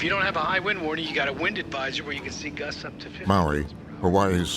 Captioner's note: voice fading out